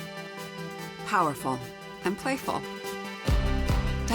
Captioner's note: voiceover